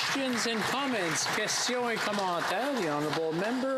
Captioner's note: some Applause